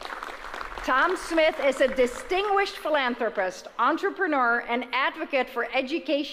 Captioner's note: applause